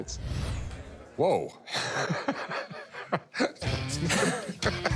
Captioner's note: laughing